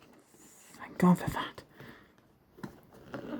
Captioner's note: whispers